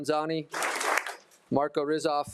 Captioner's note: attendees applauding